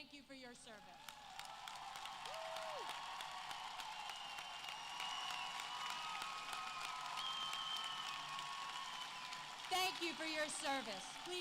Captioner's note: applause